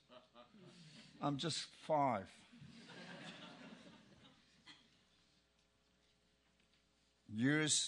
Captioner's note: laugh